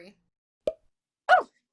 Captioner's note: pop